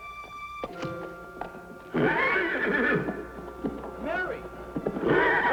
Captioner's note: horse whinnies